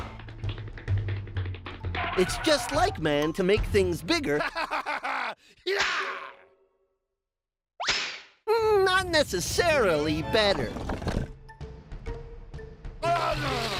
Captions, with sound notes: IT'S JUST LIKE MAN TO MAKE THINGS BIGGER... (laughing) YAH! NOT NECESSARILY BETTER. AAH!